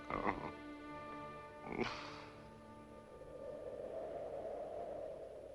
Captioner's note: sighs; wind whistling